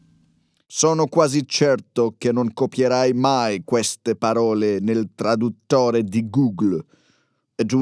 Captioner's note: Italian